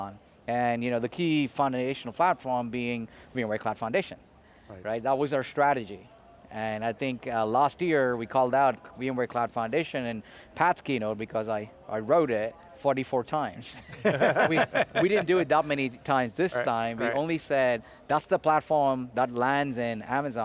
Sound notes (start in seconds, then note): 13.8 group laughter; 13.8 laughs